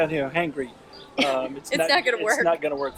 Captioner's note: laughing